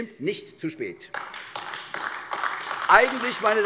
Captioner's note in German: Beifall AfD